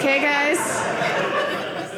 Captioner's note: audience laughing